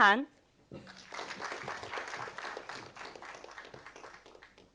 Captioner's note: audience applauding